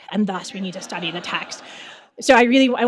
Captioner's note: audience laughing